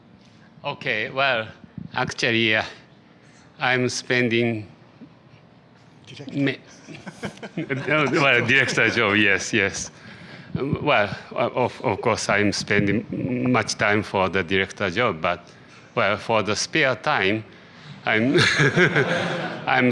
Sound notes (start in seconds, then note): 5.0 whispering; 6.8 laughter; 18.3 laughter